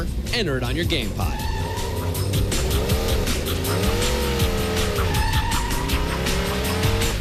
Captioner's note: tires squealing and engine revving